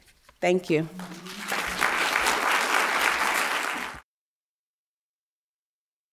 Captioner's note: applause